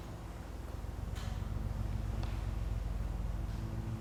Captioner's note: air rumbling